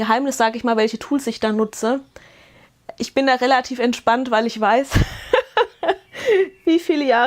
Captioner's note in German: Gelächter